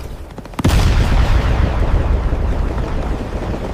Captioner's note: explosion